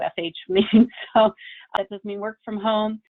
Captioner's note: chuckles